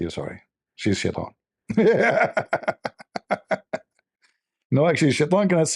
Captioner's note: Ketawa